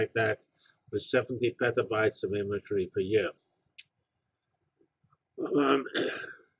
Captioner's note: cough